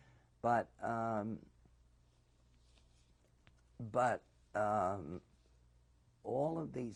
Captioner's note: pauses for 3 seconds